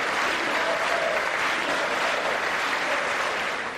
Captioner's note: applause